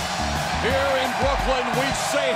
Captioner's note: cheers and applause